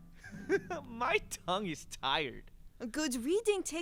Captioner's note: chuckling